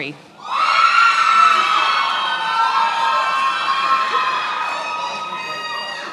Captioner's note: attendees applauding and cheering